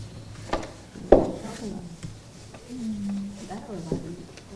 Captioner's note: students murmuring